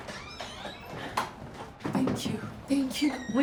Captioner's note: door squeaks